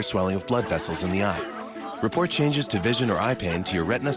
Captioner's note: cheering